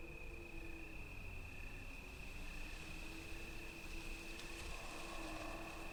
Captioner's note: wind blowing